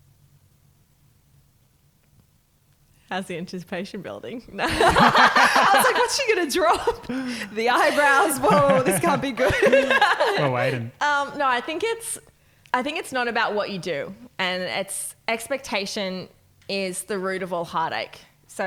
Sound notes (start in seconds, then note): 4.6 laughing